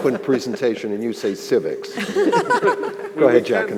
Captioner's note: panel laughing